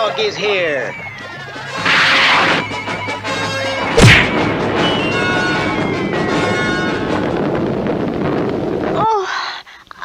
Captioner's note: smack!